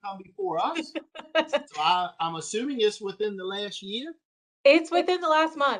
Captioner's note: laughter